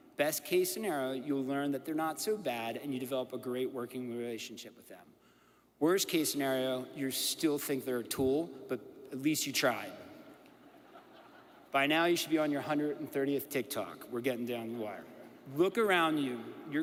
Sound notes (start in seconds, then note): 10.5 audience laughs